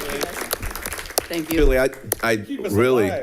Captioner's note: audience applauding